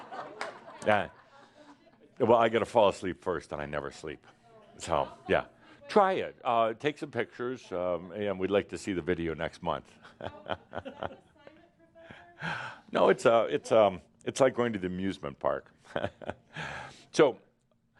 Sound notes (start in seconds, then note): 0.0 some laughter; 10.0 chuckles; 15.8 chuckles